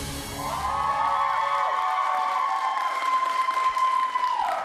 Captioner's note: applause